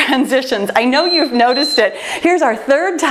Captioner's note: timer beeps